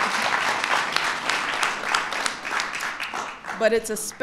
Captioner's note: applause